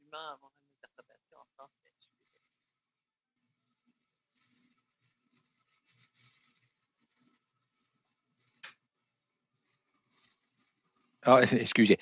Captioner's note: speaking French